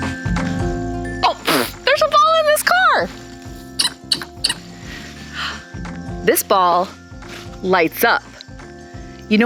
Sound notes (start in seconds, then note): 3.7 ball squeaking